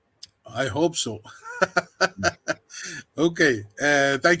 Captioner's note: laughing